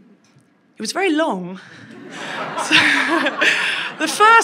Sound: and crowd laughs

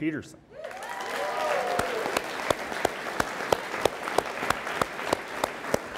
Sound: audience applauds and cheers

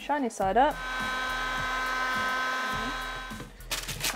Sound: machine hums

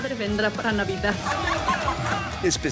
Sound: laughing

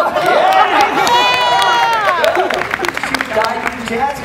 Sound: audience applauds

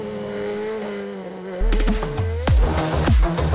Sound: car engine revs; upbeat techno music

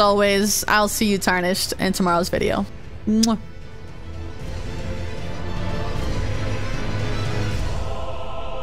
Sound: kiss

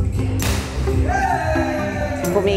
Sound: cheering

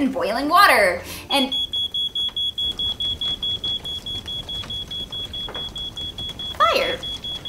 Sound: fire alarm

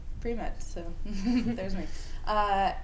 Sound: laughter

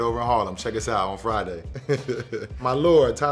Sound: laughing

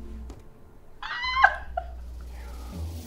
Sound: excited scream

